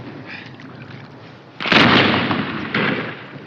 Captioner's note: artillery exploding